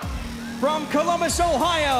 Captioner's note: cheers and applause